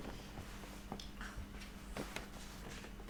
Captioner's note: moans gently